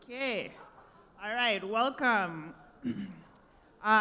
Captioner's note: clears throat